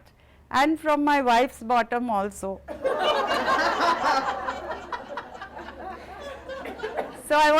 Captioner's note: laughter